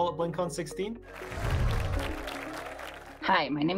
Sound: applause

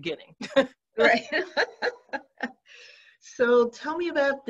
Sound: laughs

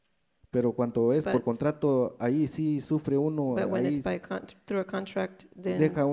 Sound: speaks in foreign language

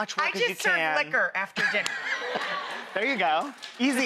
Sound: laughs

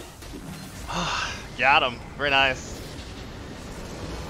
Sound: sigh of relieve

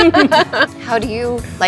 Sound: laughing

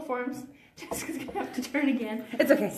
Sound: laughs

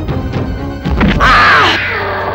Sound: groans

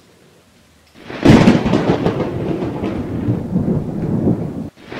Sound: thunder crack

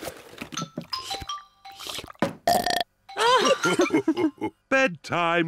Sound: laughing; slurps and belches

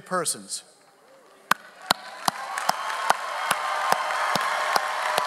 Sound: audience applauds

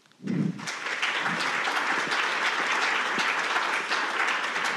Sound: audience applauding

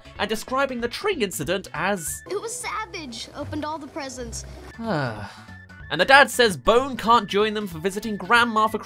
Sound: sigh

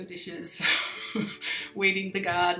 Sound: laughs

